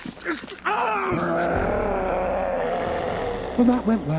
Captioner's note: Joe screams; Loki roars